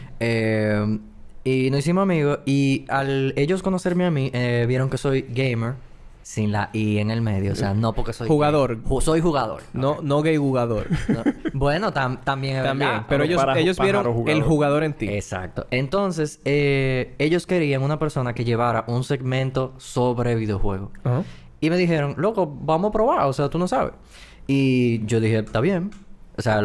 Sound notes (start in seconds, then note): 10.8 laughs